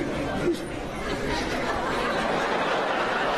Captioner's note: laughter